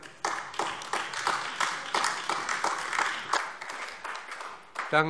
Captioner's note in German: Beifall AfD